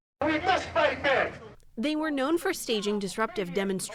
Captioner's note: voice-over